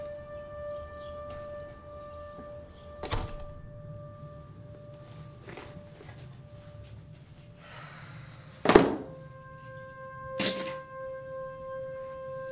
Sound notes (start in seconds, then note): 7.6 sighing